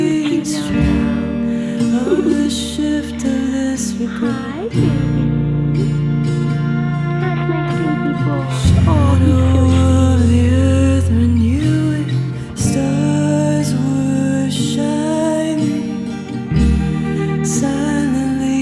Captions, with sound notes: [Giggles] Hi, baby. How's my sleepy boy? Oh, he's so sleepy.